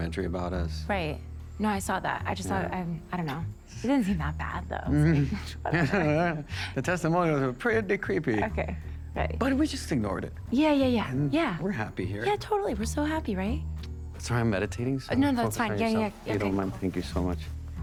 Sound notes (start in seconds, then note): 4.9 walter chuckles; 13.0 smacks lips